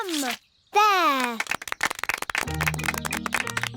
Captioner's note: applause